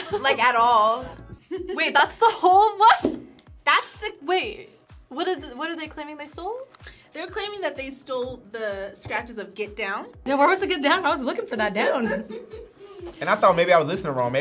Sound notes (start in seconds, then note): 3.3 laughs